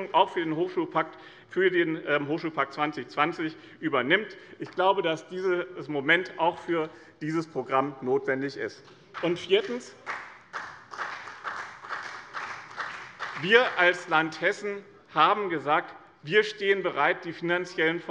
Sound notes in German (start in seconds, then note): 9.1 Beifall bei dem BÜNDNIS 90/DIE GRÜNEN und der CDU